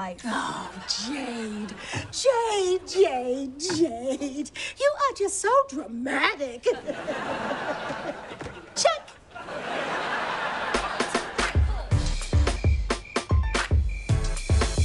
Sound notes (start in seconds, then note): 6.6 chuckles